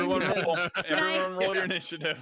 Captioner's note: group laughing